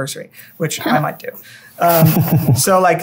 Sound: laughter

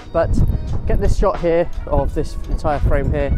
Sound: none

